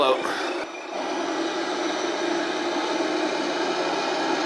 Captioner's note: truck engine roaring